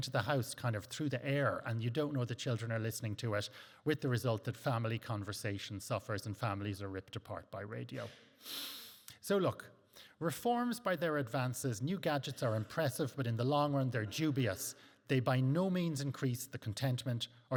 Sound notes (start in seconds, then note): 8.0 inhales